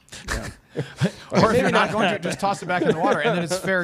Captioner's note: laughs